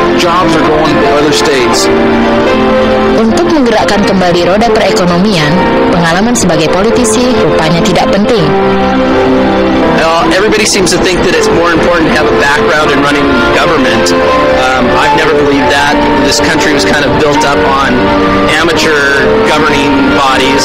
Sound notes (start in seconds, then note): 3.1 speaking indonesian